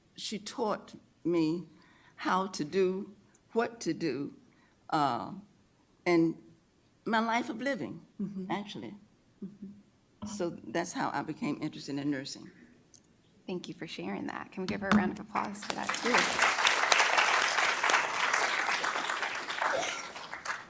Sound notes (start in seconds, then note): 15.3 applause